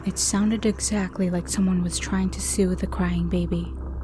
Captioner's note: none